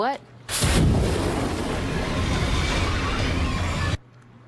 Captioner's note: flames erupt; Demogorgon yells